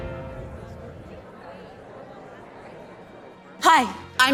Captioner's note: crowd murmurs